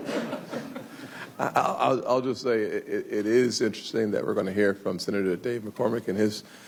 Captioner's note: laughter